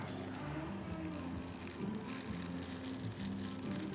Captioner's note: wrap rustling